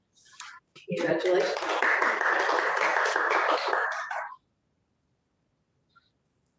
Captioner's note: applause